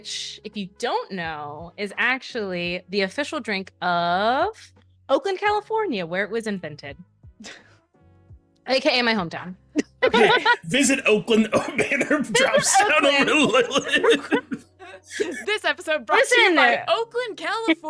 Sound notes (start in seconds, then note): 12.8 laughs